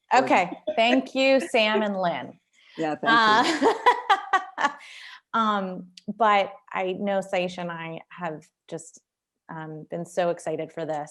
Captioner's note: laughter